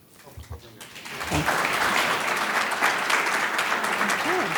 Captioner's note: audience claps